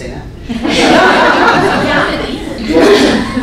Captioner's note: laughter